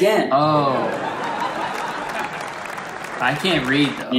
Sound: crowd cheers

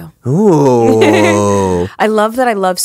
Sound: Monique laughs

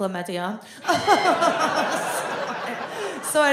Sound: fakes laughter

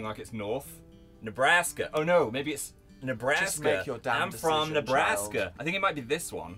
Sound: american accent

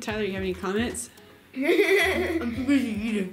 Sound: laughs

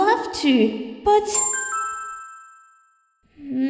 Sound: ding!

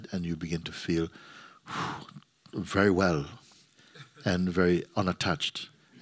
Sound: exhales

